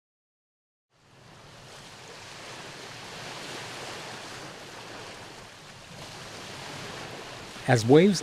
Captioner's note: water splashes